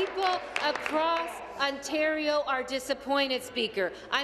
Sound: applause

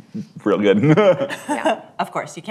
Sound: laughter

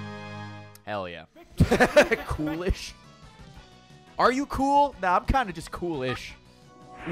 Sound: laughs

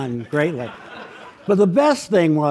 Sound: audience laughs

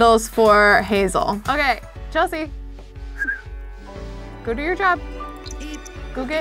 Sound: whistles

